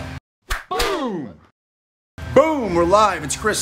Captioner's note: male Voice